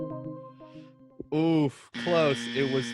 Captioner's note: buzzer sound effect